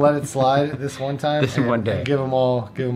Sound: laughs

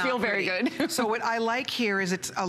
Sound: laughter

